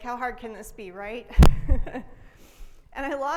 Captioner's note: laughs